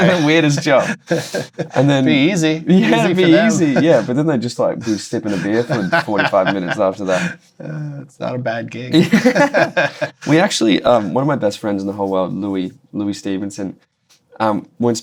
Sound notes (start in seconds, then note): 8.9 laughter